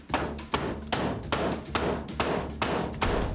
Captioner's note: pounding